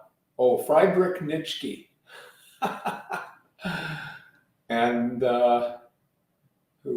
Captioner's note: laughing